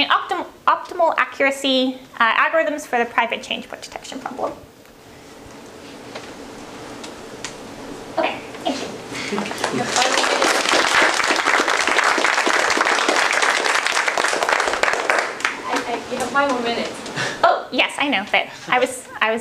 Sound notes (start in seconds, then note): 9.5 applause